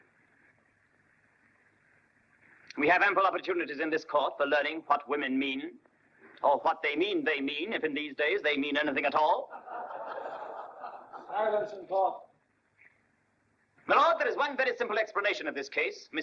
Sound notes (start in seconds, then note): 9.4 court laughing